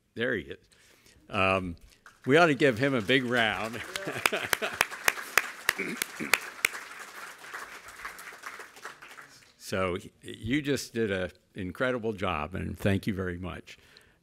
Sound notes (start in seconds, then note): 3.6 laughs; 3.7 crowd clapping